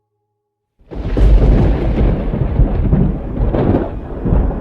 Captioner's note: thunder rumbling